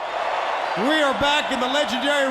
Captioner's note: crowd cheering